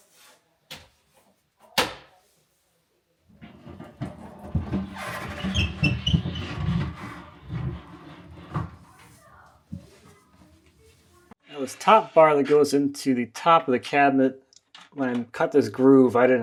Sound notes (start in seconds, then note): 1.7 furniture clacking; 8.7 people chattering faintly